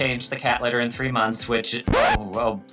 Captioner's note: record scratching